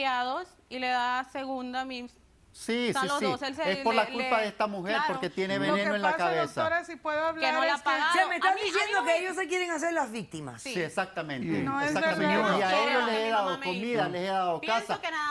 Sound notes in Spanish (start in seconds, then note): 5.3 Hablan al unísono; 12.2 Hablan al unísono